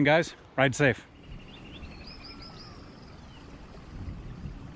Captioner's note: birds chirping